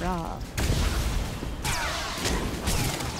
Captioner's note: gunshots